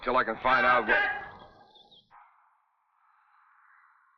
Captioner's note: man shouts